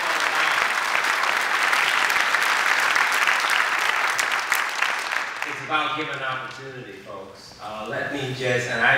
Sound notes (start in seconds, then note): 0.0 applause